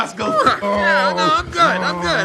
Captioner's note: grunts